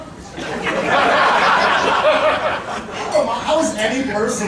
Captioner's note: audience laughing